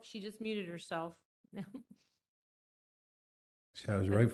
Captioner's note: laughter